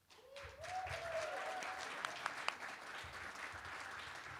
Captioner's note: applause